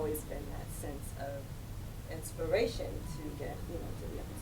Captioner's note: voice muffled